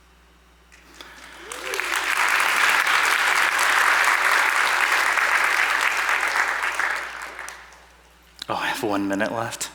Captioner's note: applause